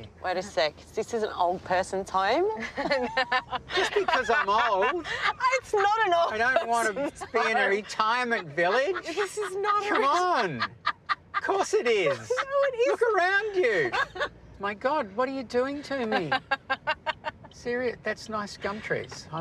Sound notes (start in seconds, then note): 2.5 laughter; 9.9 laughs; 16.1 laughing